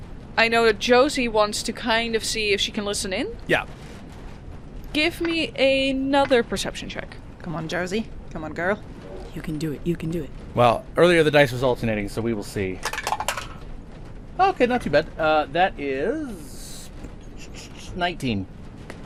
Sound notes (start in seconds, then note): 5.0 metallic tapping; 13.2 good dice tower clacks